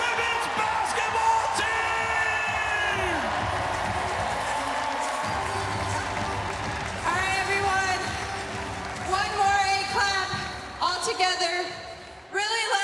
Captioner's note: cheers and applause